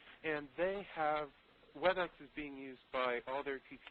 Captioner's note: none